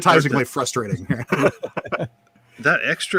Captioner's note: both laughing